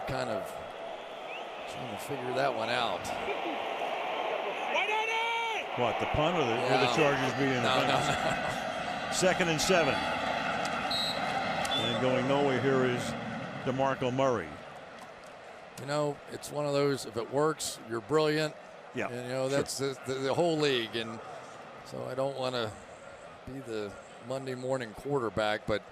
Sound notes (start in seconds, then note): 7.7 laughs; 10.8 whistle